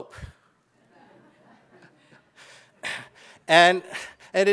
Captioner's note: audience laughing